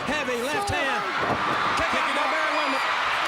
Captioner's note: crowd cheering